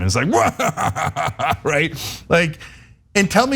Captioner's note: laugh